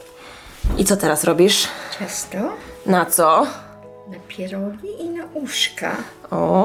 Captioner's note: conversing in Polish